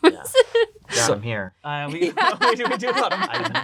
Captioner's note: laughing